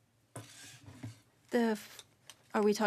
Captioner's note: speaking French